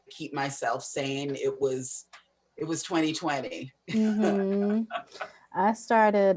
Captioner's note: laughs